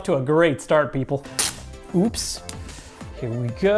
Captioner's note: tape ripping